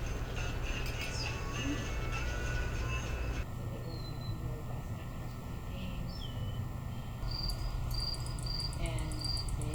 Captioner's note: background Chatter